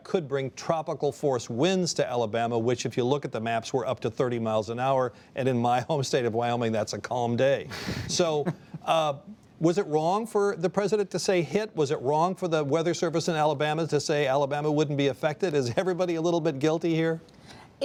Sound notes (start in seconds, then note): 7.8 laughter